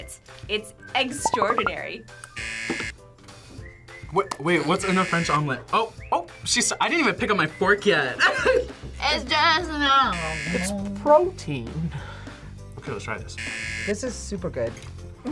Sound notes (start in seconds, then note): 2.3 buzzer; 8.2 laughs